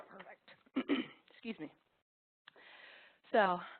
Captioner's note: clears throat